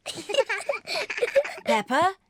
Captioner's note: both giggle